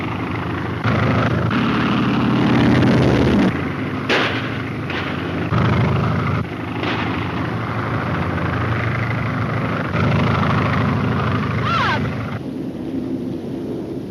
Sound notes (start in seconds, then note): 2.3 plane engine revs; 4.0 gun fires; 6.8 gun fires